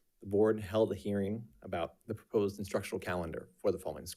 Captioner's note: none